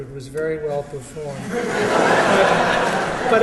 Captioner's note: laughter